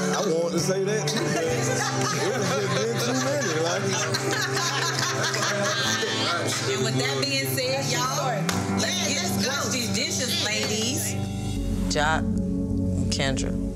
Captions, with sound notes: I was wanting to say that. (group laughing) - With that being said, y'all, let's get it. - Let's go. - Let's wash these dishes, ladies. - Joc and Kendra,